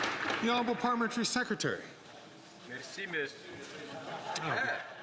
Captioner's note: some Applause